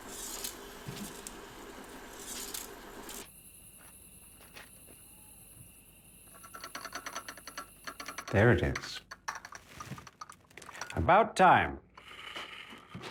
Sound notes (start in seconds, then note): 2.2 reels clicking continues; 3.2 crickets chirping; 6.6 platter rattling